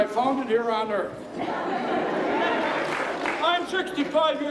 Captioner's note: crowd laughing and applauding